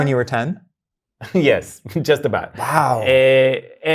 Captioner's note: laughs